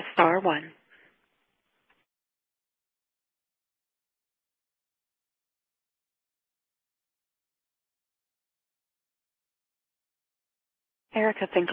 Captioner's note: pause in speaking